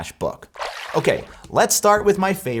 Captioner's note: water splashes